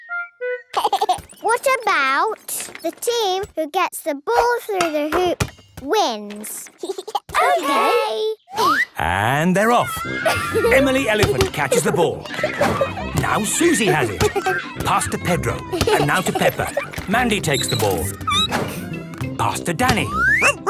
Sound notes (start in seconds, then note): 0.7 giggling; 17.9 squeaking; 20.2 barking